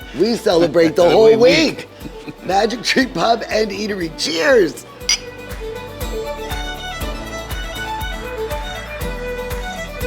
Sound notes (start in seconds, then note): 5.0 glasses click; 6.6 lively violin music